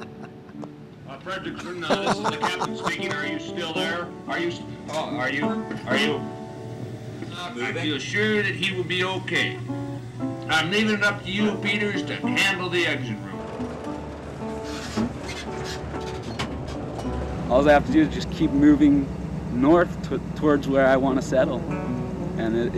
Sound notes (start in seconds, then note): 1.4 laughter